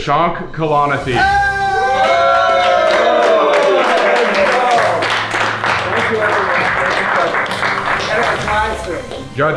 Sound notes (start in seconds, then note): 1.4 contestants cheering and applauding; 7.3 audience applauding